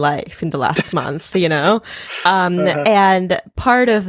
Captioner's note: laughing